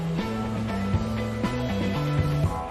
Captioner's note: engine roars; upbeat music